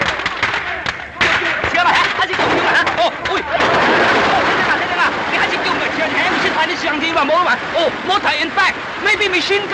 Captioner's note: explains in Chinese